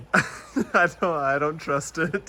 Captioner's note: laughing